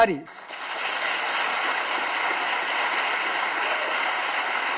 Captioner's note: audience claps